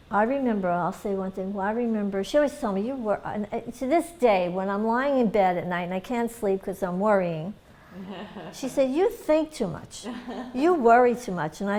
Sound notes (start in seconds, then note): 10.0 laughter